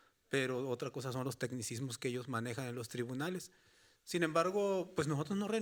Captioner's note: speaking Spanish continues